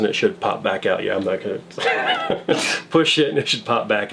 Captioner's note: laughing